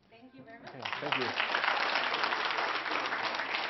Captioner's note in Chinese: Applause; 掌聲